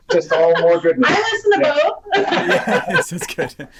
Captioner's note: laughing